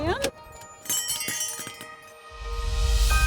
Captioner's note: bells tinkle